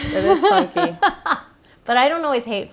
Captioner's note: laughing